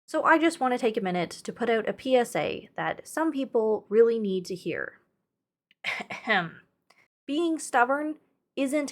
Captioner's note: ahem